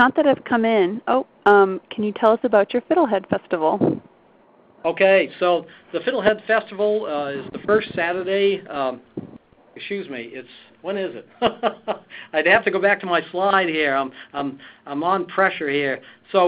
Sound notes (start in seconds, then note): 11.3 laughs